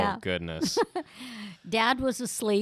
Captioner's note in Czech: Chichotá se